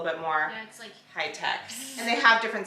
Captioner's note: imitates buzzing